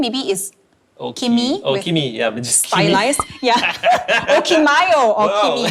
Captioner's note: laughs